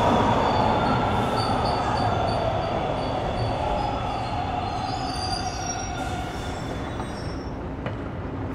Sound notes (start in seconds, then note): 2.2 subway screeching